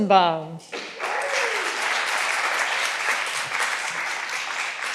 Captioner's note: all applauding